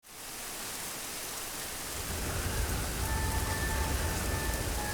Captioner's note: rainstorm